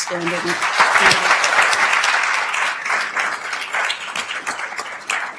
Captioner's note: attendees applauding